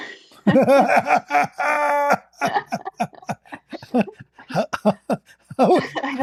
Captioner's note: Ketawa